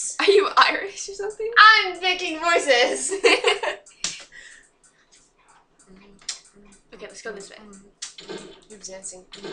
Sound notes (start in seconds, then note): 8.2 chatter